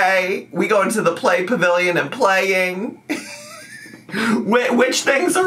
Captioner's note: laughs